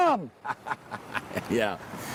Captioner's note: riendo